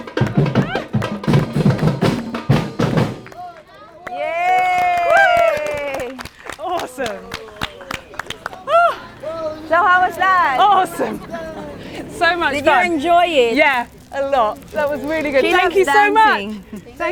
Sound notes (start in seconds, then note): 3.2 cheering